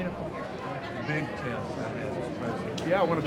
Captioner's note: overlapping chatter